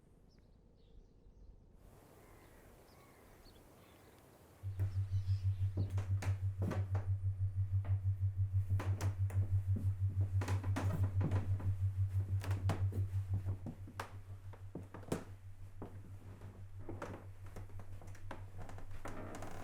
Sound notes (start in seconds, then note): 0.3 birds chirping; 4.5 ceiling fan humming; 13.4 floorboards creaking